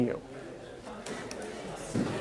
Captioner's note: chatter